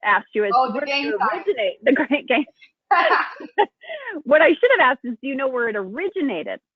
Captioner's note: laughs